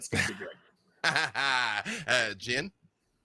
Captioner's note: laughs